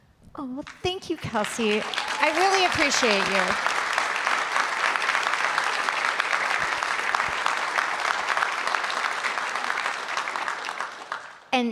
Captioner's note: applause